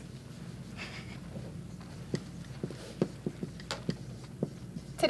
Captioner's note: quite giggle